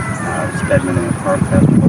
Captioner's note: rooster crows